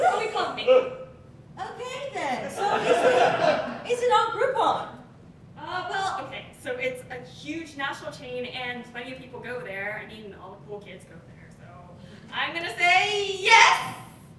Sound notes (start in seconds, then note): 2.2 audience Laughing